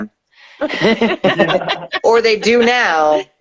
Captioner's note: laughing